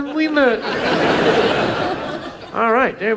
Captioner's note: audience laughs